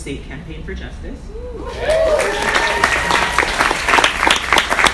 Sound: audience applauds

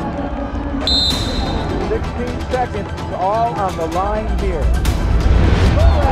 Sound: whistle

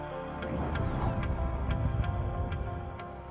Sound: whooshing

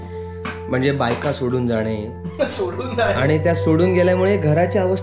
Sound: laughing

